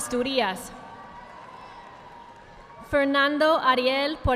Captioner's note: audience applauding